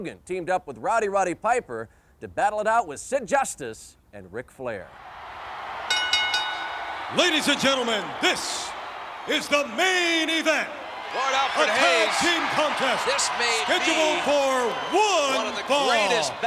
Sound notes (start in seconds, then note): 5.0 audience cheers; 5.8 bell ringing